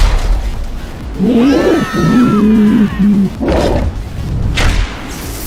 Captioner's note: screaming; dragon roaring